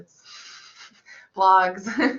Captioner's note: laughter